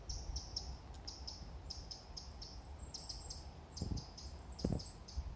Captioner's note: varied song bird noises